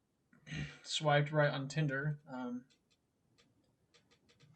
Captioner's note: clears throat